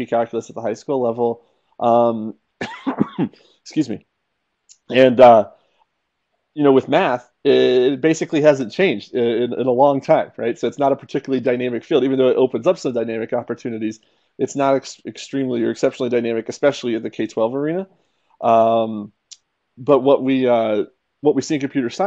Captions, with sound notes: at the high school level. [cough] Excuse me. And, you know, with math, it basically hasn't changed in a long time, right? So it's not a particularly dynamically field, even though it opens up so dynamic opportunities. It's not extremely or exceptionally dynamic, especially in the K-12 arena. But what we see in computer science